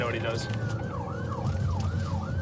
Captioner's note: siren blaring